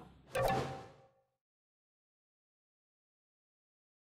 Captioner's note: pause